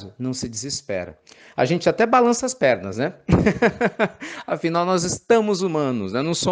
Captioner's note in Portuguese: risos